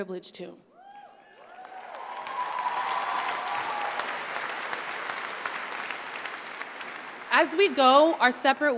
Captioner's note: applause